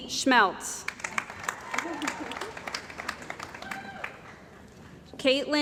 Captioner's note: cheering & Applause